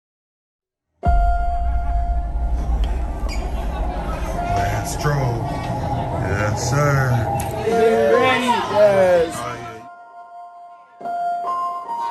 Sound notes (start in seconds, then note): 7.1 piano playing; 8.6 all chattering